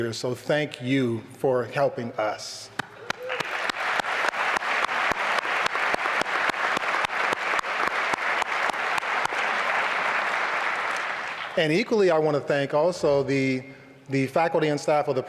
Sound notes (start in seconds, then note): 2.7 applause